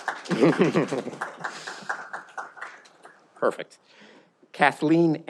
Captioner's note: laughing